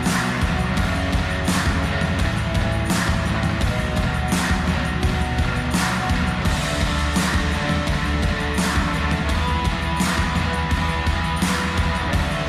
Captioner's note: applause